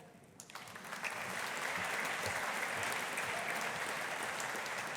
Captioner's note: audience applauding